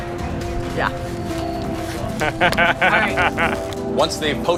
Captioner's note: laughs